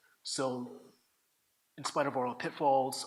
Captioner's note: none